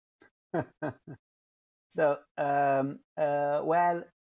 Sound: laughs

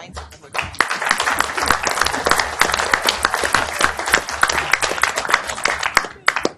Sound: audience applauds

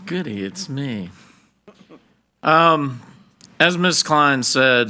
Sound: board Member chuckles

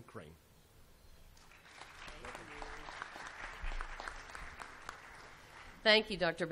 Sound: applause

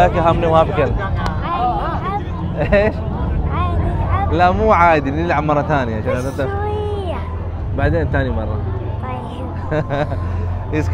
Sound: Arabic

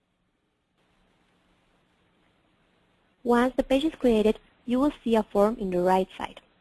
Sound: pause

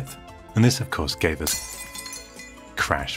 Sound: crash

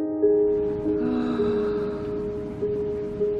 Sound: deep breaths

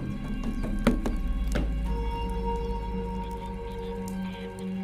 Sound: footsteps clacking; dramatic music continuing

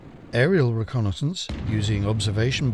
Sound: explosion booms

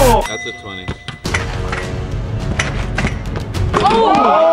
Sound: chime

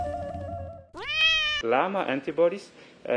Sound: cat meowing

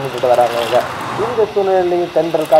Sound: radio plays

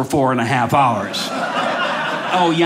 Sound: audience laughing

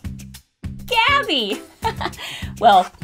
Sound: laughs

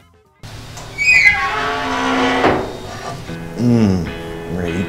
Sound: smoker squeaks

